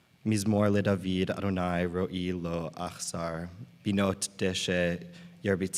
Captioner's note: speaking in foreign language